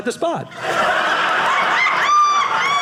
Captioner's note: audience laughing